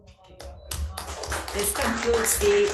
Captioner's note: audience applauding